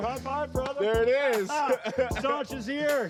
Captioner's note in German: lacht